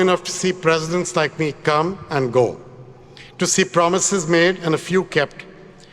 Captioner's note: none